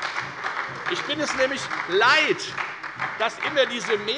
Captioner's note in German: Beifall bei der FDP und bei Abgeordneten der SPD